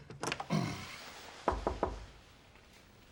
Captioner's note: knock on door